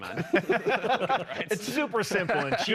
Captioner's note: laughing